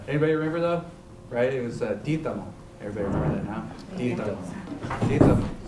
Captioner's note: non-english